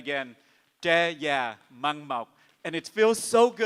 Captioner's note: speaks in Vietnamese